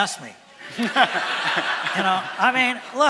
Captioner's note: laughter from audience